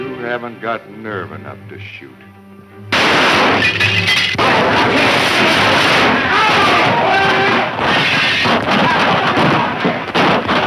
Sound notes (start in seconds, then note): 2.9 loud gunshot; 4.8 gunshot blasts and shouting